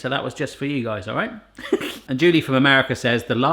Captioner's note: laughing